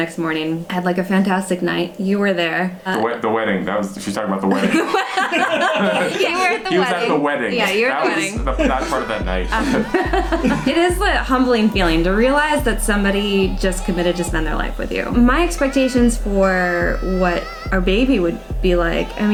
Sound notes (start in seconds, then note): 4.5 everyone laughing; 8.3 more laughter